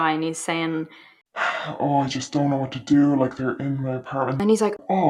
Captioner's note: sigh